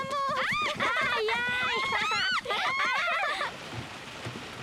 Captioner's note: giggling